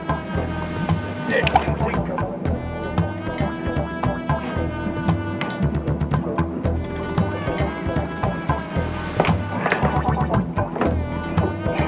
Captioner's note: splash